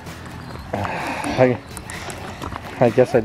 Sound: sigh

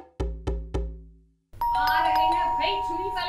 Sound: bell rings

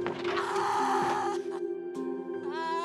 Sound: sobbing

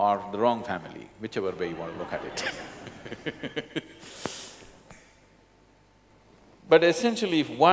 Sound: laughter

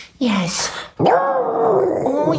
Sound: howling

